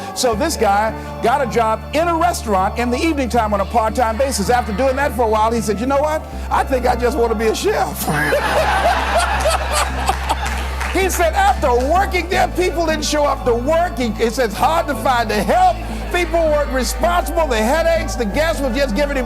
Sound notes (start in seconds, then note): 8.0 laughter